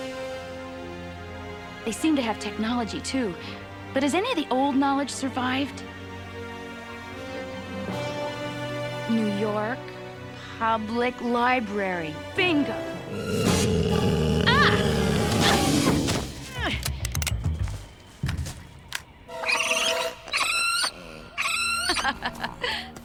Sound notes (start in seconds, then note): 12.9 growling; 16.9 cocking; 19.4 screeching; 20.8 laughing